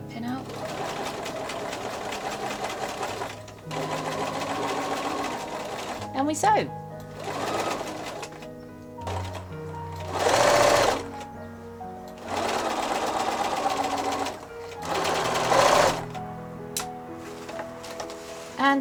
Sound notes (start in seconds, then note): 9.0 sewing machine whirring